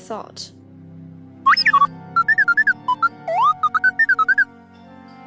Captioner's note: t3-m4 beeps